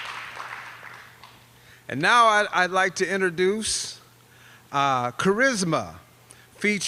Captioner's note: applause